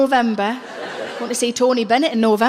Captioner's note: laughing